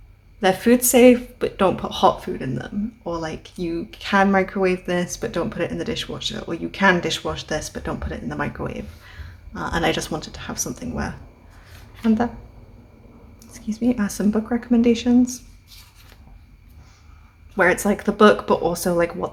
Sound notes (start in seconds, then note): 12.8 throat noise